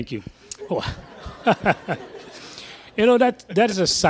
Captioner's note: laughter